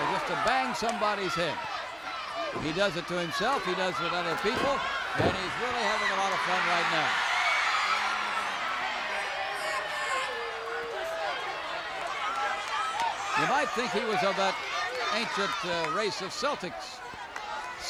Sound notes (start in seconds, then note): 7.3 crowd cheers